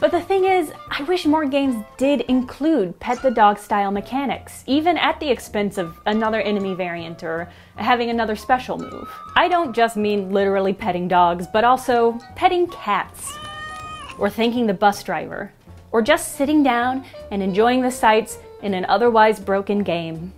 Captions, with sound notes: But the thing is… I wish more games did choose to spend time on “petting the dog” style mechanics, even at the expense of a another enemy varieties or having another special move. I don’t just mean literally petting dogs, but also, petting cats. [cat meow!] Or thanking the bus driver. Or just sitting down and enjoying the sights in an otherwise broken game.